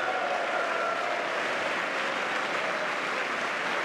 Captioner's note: cheers; applause